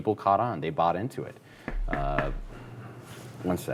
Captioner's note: knocking on door